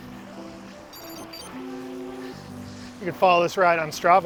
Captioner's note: computer beeps